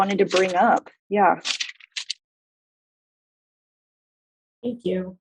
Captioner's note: paper crinkles